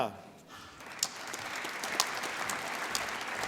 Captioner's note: applause